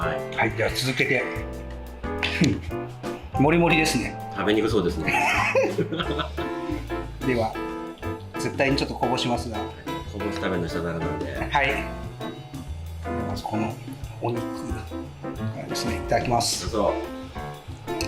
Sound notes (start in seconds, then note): 5.0 laughs